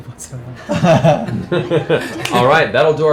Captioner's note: laughter